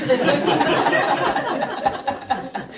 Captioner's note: audience laughing